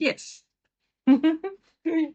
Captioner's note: laughs